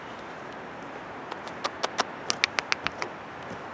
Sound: smooching and clicking

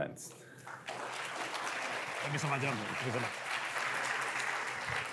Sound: applause

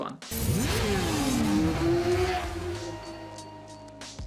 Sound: bike engine revving

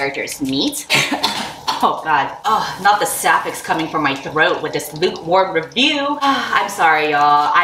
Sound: coughs and chokes on the pepper

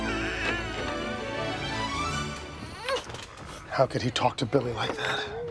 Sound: baby crying

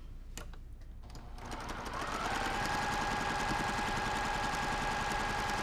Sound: sewing machine whirling

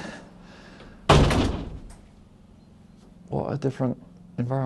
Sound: door slams closed

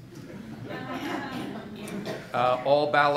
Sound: audience laughing

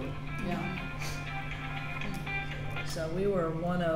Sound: phone ringing

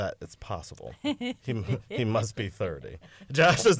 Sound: laughter

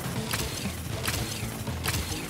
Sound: sh-kck

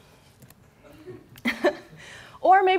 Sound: laughter

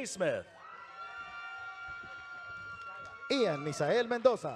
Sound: audience cheering

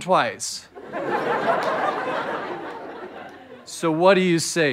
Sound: audience laughter

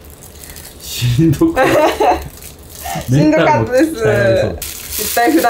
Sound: laughs

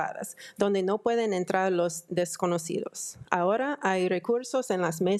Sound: speaking in foreign language

